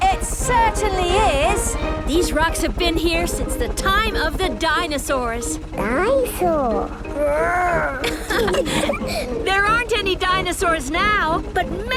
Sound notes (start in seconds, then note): 6.3 laughing